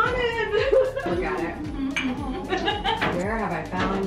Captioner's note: group laughing